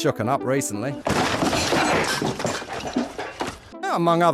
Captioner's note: loud smashing sounds